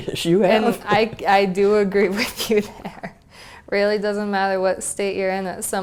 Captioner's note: laugh